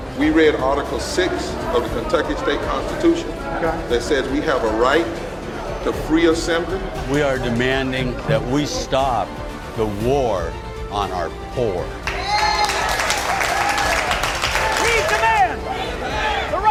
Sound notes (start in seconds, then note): 12.0 cheering and clapping